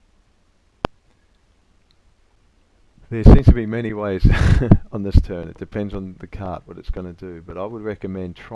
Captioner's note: laugh